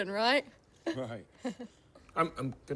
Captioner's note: chuckles